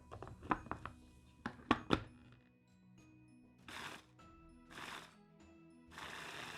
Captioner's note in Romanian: tocator electric